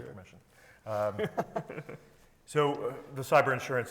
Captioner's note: panelists chuckling